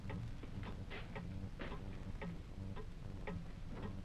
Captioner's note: clock ticking